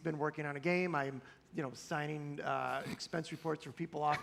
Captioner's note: laughter